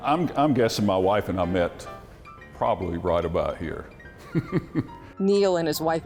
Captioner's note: laughs